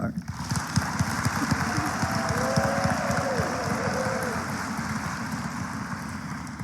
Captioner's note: applause